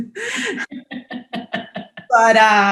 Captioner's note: laughs